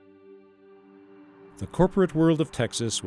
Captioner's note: voiceover